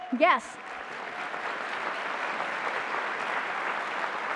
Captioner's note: applause